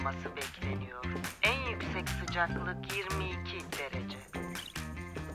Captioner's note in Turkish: Telesekreter ses